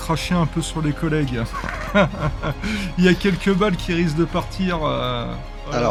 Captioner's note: laughs